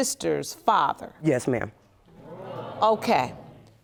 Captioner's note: audience gasps